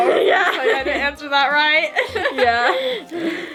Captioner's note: laughing